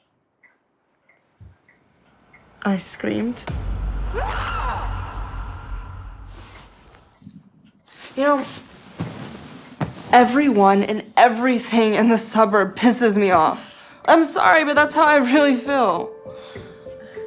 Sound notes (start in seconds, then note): 2.4 dramatic music; 4.1 screams; 14.9 gentle music